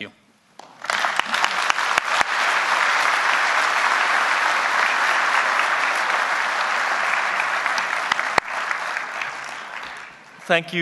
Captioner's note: applause